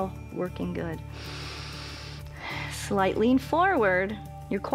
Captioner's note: inhales